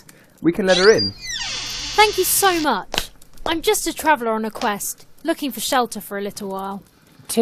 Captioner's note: door creaks open